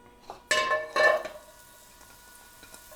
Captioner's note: can clinks